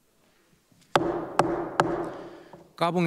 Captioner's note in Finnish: Kolme nuijan kopautusta